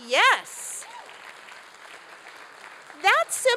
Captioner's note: applause